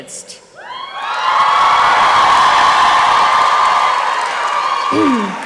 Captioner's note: applause and cheering